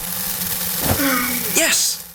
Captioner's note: gasps